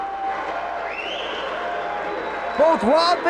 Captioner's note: spectators chanting "Sabu!"; spectators cheering and applauding